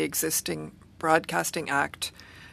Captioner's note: speaking French